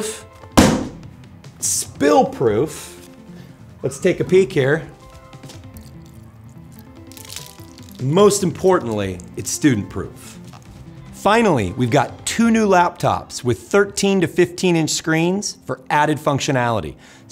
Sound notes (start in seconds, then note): 0.5 laptop thudding onto table; 7.0 water splashing onto table